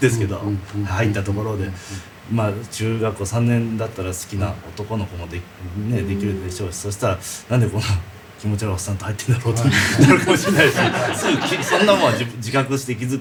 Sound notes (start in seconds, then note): 9.6 laughs